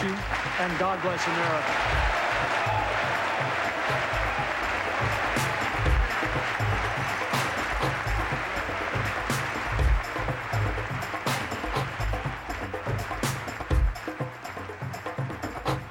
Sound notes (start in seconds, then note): 1.6 applause